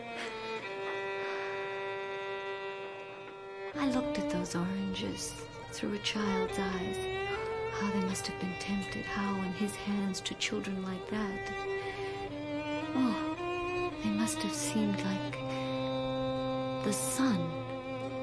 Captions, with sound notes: [soft crying] I looked at those oranges through a child's eyes. How they must have been tempted. How, in his hands, to children like that... Oh. He must have seemed like the sun.